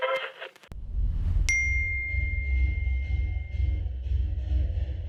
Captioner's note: old-fashioned radio being tuned; iPhone message pings; muffled club music